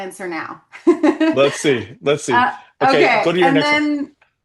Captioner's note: laughs